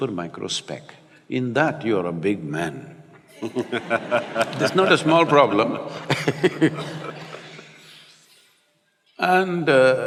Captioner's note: laughter; laughs